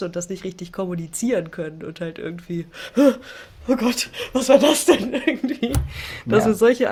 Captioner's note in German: gelächter